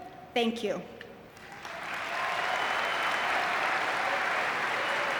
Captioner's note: audience clapping